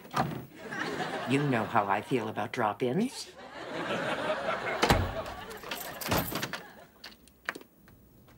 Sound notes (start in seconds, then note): 4.8 locks clicking